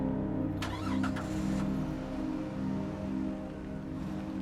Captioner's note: car starting